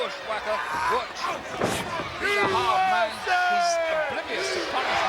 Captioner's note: blows thudding